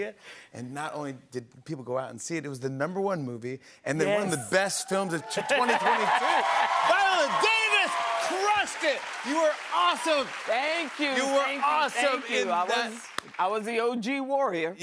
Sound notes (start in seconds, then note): 6.5 cheers and applause